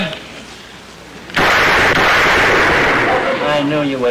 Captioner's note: gunshots